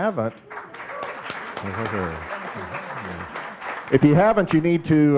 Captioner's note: audience clapping